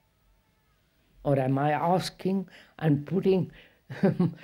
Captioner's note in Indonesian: tertawa